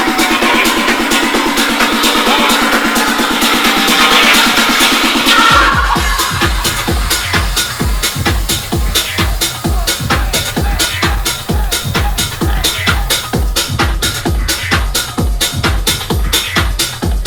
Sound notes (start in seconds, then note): 0.1 upbeat tech music; 7.0 smoke blowing; 13.5 upbeat tech music